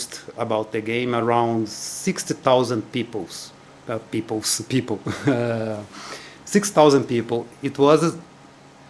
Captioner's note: laughs at my bad English